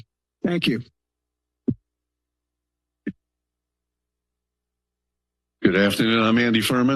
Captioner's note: silence